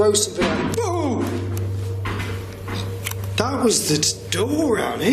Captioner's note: groans